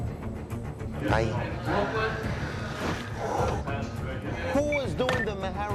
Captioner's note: exhales sharply